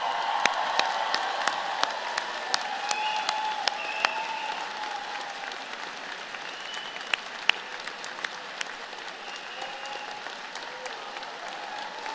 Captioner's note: applause